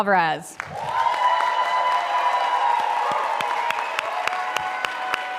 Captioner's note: audience applauding